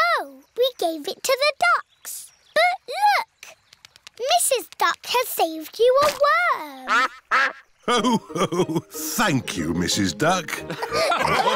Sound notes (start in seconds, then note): 6.8 quacks